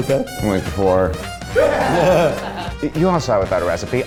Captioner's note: all laughing